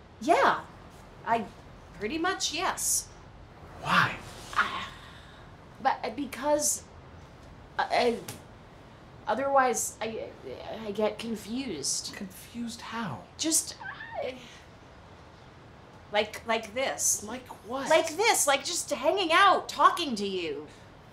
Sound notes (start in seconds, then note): 9.9 stammering